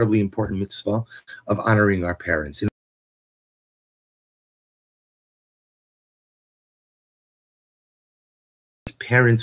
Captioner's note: audio stops working for several seconds